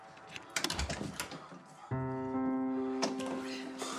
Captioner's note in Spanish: ruido al abrir